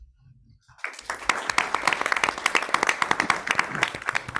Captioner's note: audience clapping